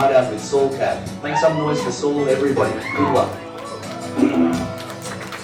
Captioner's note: woos